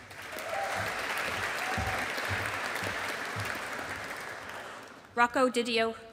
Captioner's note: audience applauding